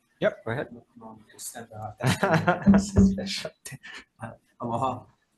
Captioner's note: laughs